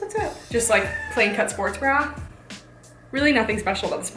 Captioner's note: cat meowing